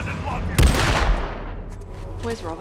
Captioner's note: gunshot